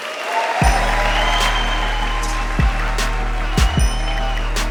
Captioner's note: audience applauding